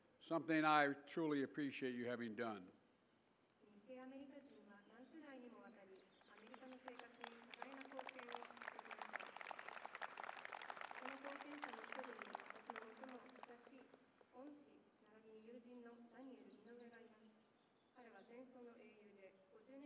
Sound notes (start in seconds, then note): 4.4 applause